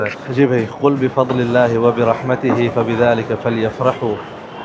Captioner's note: Arabic